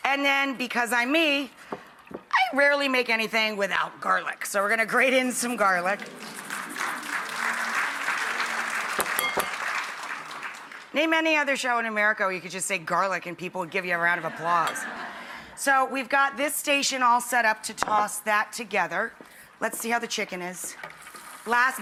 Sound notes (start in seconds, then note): 5.7 audience applauds; 14.2 audience laughs